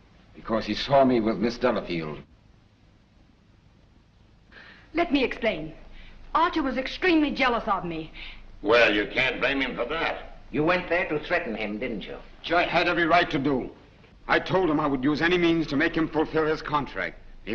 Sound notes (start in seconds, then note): none